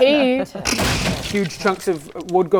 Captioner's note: smash